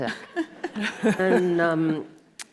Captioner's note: audience laughs